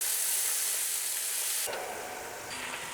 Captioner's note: sizzling sound